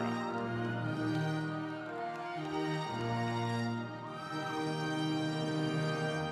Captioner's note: audience cheering